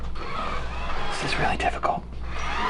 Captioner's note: whispering